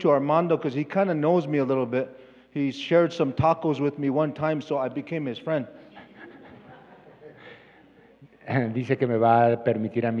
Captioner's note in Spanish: Expositor habla en inglés